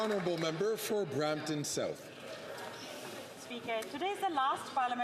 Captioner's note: some Applause